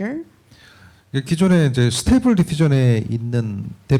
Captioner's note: speaking korean